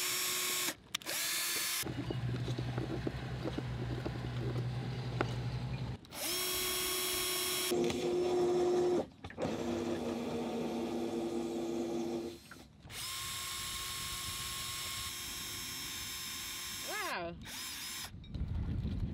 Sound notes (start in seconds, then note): 2.1 engine buzzing; 6.0 drill whirring